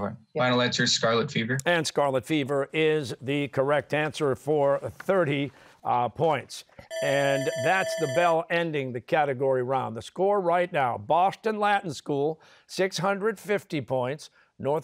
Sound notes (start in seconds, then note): 6.9 bell ringing